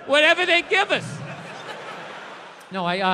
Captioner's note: crowd laughs